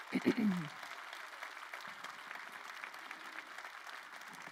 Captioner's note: crowd applauding